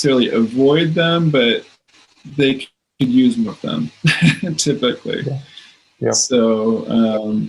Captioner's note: laughs